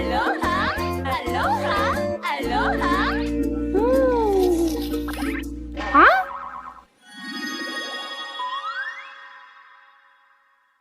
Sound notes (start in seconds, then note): 4.2 Jibanyan slurps